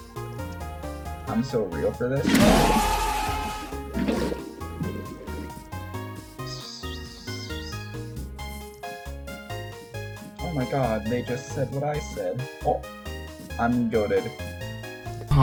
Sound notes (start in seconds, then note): 2.3 MLG ohhh sound effect; 6.3 hisses like a snake; 8.3 snake hisses